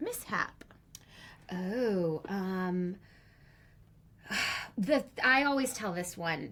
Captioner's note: sighs